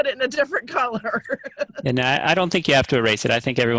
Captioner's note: laughing